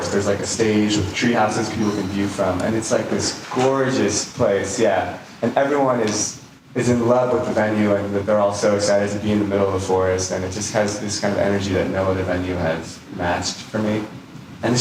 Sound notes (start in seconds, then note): none